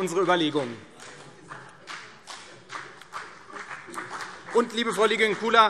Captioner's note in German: Vereinzelter Beifall CDU und BÜNDNIS 90/DIE GRÜNEN